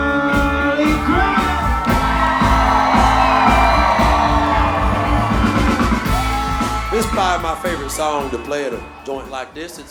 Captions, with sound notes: (crowd cheers) (upbeat music) - This is probably my favorite song to play at a joint like this.